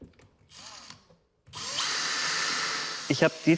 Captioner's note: drilling noises